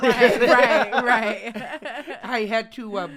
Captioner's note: all laughing